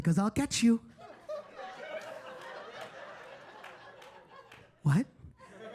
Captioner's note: audience laughing